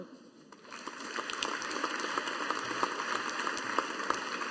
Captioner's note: audience applauding